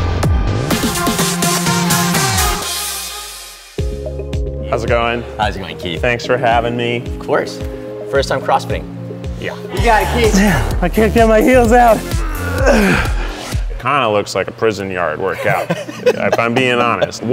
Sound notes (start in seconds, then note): 4.0 mellow rock music; 11.9 grunting; 15.3 laughing